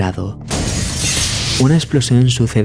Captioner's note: burst